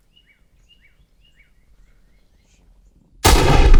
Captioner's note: gun fires